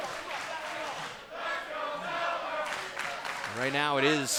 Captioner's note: fans chanting